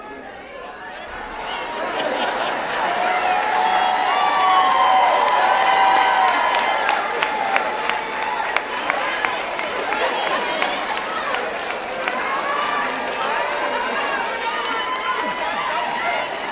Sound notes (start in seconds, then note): 1.0 cheering